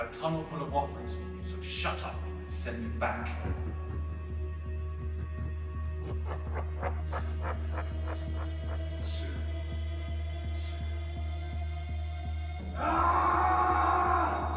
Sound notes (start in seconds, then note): 4.2 Shadow laughing